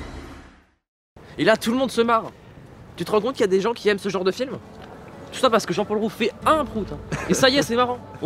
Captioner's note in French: Rire de Mad